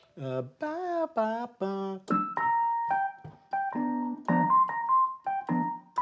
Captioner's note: vocalizes